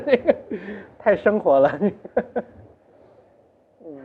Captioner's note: laughs